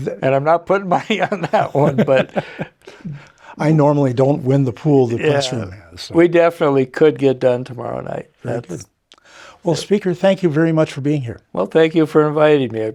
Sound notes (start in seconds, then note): 0.9 laughing